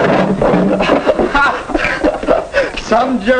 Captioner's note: laughing